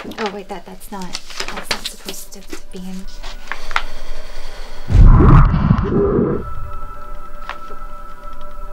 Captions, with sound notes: Oh, wait. That...that's not... That's not supposed to be in... (EMMA EXHALES) (EMMA YELLING UNDERWATER)